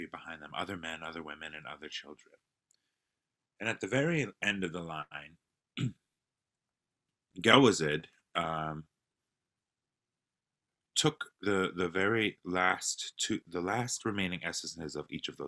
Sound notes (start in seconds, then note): 8.0 non-english speech